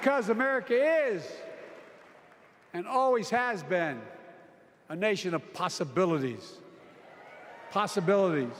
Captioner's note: applause